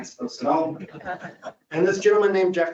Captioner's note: audience laughs